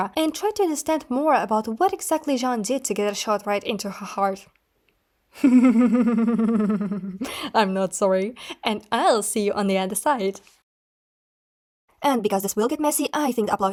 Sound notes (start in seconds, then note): 5.4 evil giggling